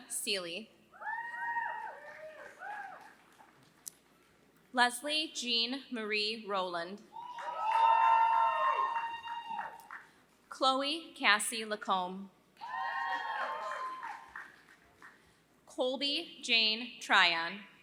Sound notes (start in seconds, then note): 0.0 applause; 7.3 applause; 13.0 applause